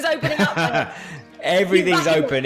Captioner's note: laughs